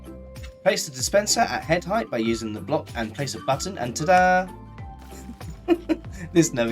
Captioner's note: laughing